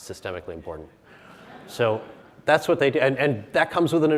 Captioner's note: audience chuckles